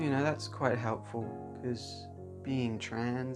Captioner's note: none